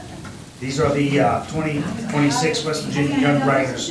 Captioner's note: crowd talking indistinctly